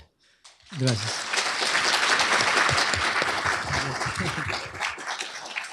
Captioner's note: applause